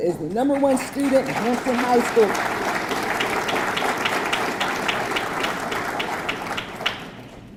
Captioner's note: audience clapping